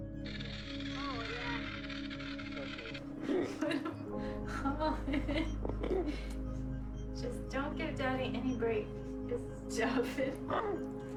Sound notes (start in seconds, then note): 3.1 laughing